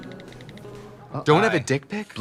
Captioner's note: phone keyboard tapping